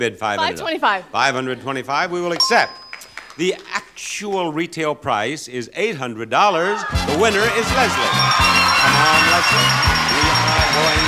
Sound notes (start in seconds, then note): 2.4 bell chimes; 6.9 upbeat music; 8.3 audience cheers; 10.1 bell chimes rapidly